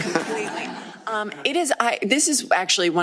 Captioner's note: laughter